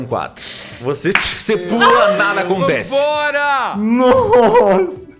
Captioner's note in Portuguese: tch